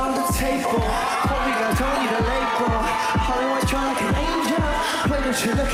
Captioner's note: crowd cheering